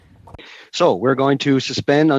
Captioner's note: speaking French